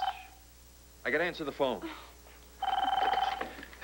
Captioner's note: telephone rings